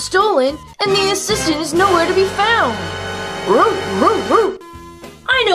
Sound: barks

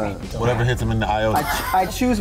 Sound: laughing

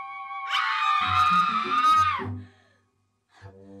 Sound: screams

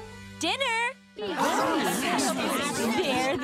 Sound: chatter

